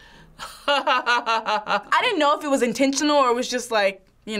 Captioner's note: laughs